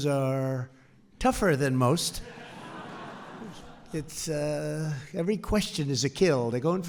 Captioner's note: laughter